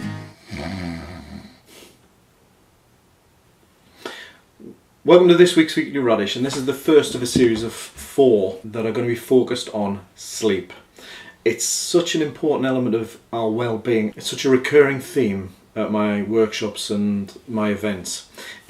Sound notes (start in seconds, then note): 0.3 snoring